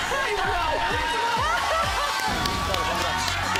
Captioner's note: laughter